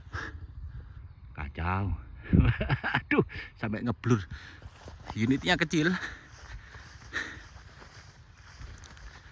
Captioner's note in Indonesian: tertawa